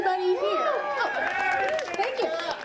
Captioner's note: audience applauding